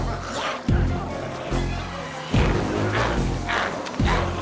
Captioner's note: glowzies growling; intense music continues